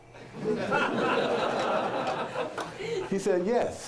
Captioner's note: audience laughter